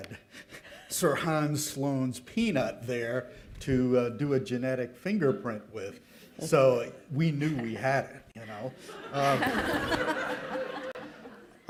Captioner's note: laughter